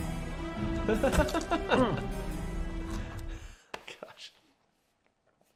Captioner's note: laughing